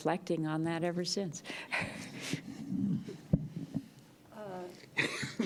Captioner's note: chuckles